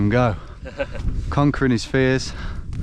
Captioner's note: laughing